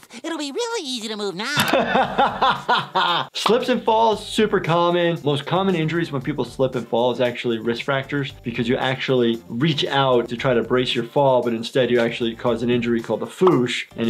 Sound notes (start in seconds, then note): 1.9 laughing